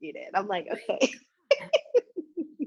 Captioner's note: laughs